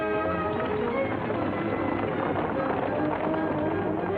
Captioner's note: horses galloping